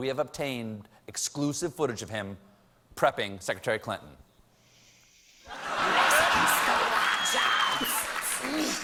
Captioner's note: laughter